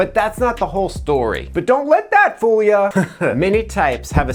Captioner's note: giggles